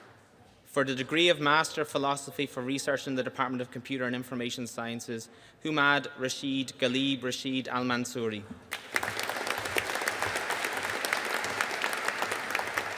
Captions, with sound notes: For the degree of Master of Philosophy for Research in the Department of Computer and Information Sciences, Humaid Rashed Ghalib Rashed Almansoori. (AUDIENCE APPLAUDING)